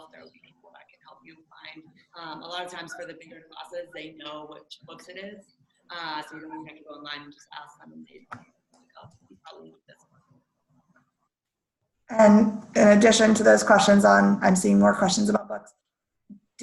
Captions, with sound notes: There'll be people that can help you find- a lot of times for the bigger classes, they know which books it is, so you don't even have to go online, you can just ask them and they (murmurs). - In addition to those questions on, I'm seeing more questions about books.